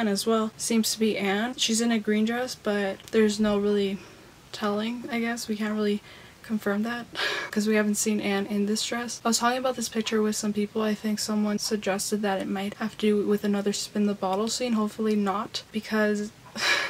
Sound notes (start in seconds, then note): 6.6 laughs; 16.5 laughs